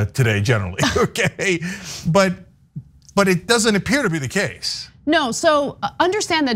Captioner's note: laugh